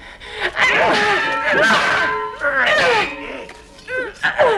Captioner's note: mutters; both grunting